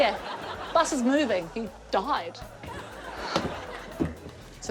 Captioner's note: laughter